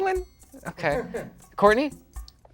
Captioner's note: chuckles